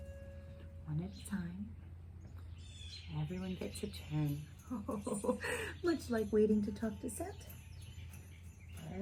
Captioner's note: ho-ho-ho chuckles